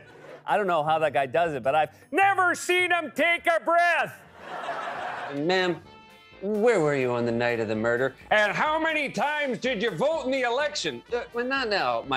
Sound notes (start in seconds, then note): 0.2 normal voice; 4.2 normal voice; 4.3 laughter; 10.6 normal voice